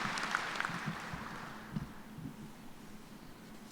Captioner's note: applause